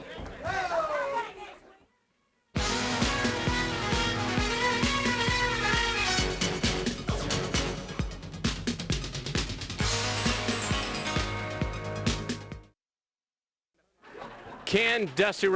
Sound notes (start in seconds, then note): 1.7 crowd chatter